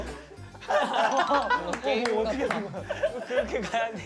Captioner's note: cracks up from that strange walk